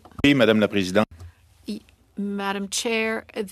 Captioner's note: speaking French